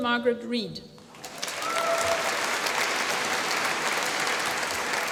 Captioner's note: applause